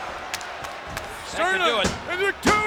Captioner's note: claps